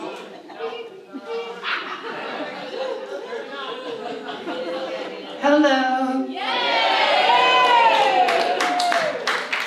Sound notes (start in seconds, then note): 2.1 audience laughs; 6.4 audience cheers